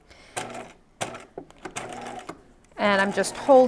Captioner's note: sewing machine whirring